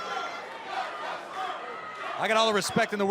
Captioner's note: fans chanting